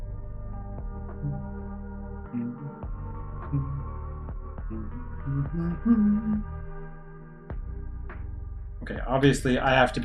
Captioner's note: humming along